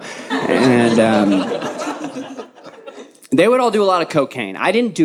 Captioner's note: audience laughing